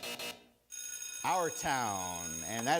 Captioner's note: school bell rings; buzzer rings